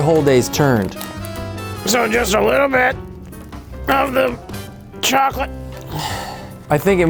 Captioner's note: sighs